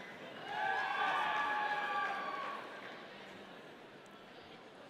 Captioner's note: audience cheering